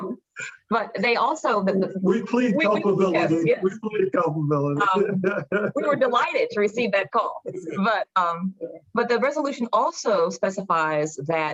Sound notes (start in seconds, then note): 5.1 laughing